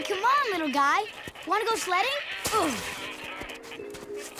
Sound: laughing; grunting

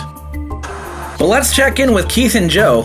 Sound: TV static

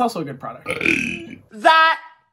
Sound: belches loudly

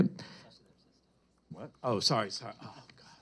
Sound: murmurs

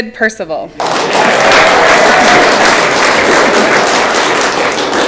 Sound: audience clapping

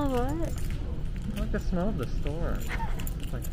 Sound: laughs

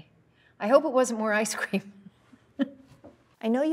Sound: laughs

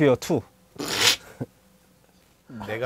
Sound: snorts in laughter

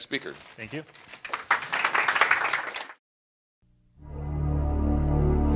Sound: audience applauding; upbeat chime

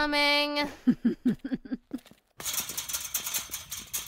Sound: giggles

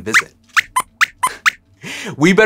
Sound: squeaks squeaks

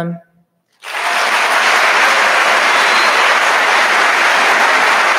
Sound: audience applauding

